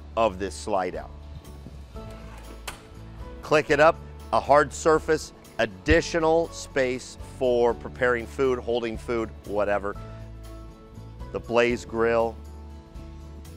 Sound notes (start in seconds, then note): 2.0 panel clicks